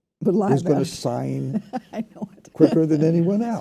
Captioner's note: laughs